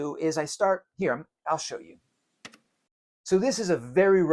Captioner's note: mouse clicks